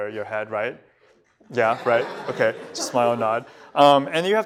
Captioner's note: laughter